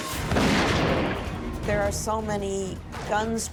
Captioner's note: guns fire